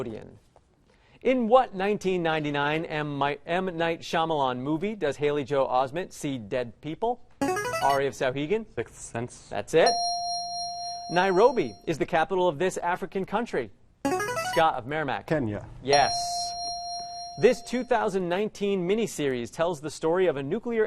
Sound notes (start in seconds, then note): 7.5 player buzzer; 9.8 ding; 13.2 player buzzer; 15.9 ding